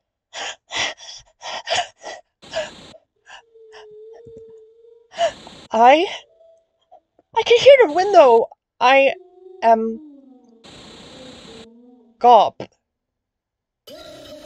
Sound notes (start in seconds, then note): 0.2 hyperventilating; 2.4 static; 5.1 static; 5.1 window wiping sound; 6.1 yelp